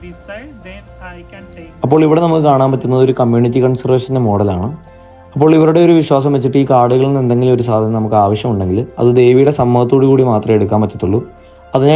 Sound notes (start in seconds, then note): 0.9 narrating in Malayalam